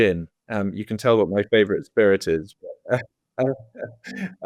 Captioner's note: laughing